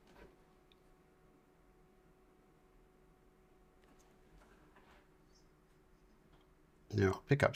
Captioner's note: silence